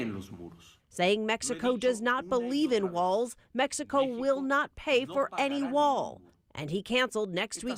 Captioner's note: speaking foreign language